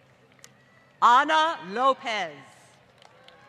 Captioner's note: applause